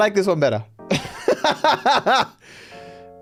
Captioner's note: laughs